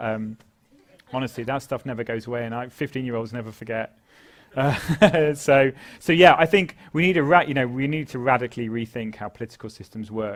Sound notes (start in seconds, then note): 4.6 laugh